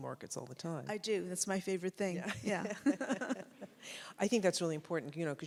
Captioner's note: laugh